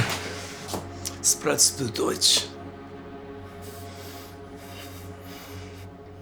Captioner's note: officer speaking German